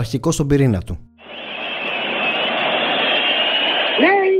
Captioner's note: clap